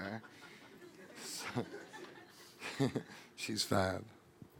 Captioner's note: audience laughing